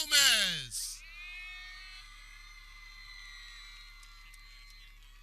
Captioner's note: people cheering